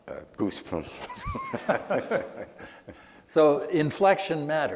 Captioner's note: laughing